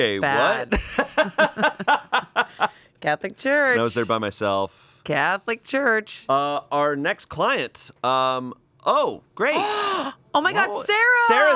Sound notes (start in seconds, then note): 0.6 laughs; 9.6 gasps